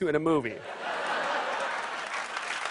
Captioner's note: laughter; applause